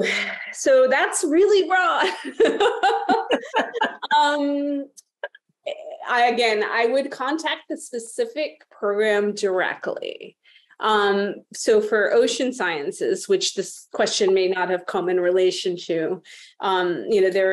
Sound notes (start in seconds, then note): 2.0 laughter